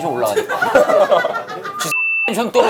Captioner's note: laughing